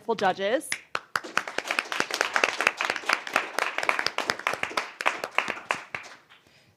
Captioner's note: applause